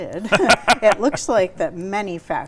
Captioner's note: laughs